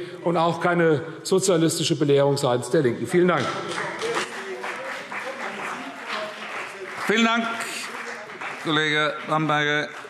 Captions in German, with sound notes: und auch keine sozialistische Belehrung seitens der LINKEN. – Vielen Dank. [Beifall CDU und BÜNDNIS 90/DIE GRÜNEN – Zurufe AfD] Vielen Dank, Kollege Bamberger.